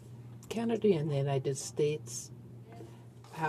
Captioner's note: speaking French